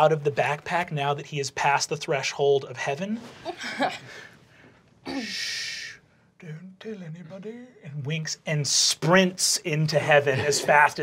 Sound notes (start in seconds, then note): 3.4 chuckles; 5.2 shushing